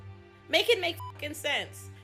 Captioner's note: beep